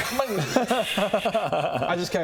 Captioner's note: sulky laughter